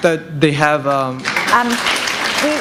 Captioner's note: applause